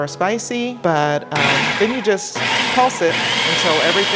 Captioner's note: food processor whirring